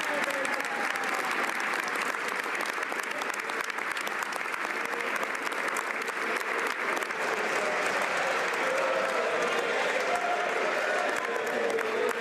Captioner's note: applause